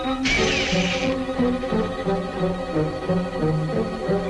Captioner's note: reel whirring